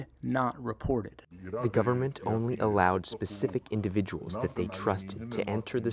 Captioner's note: through translator